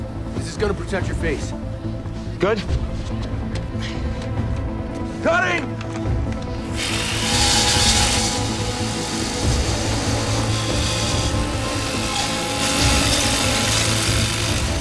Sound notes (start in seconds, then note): 6.6 machine buzzes; 6.9 buzzes